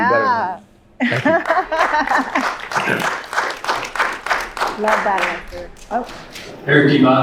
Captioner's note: applause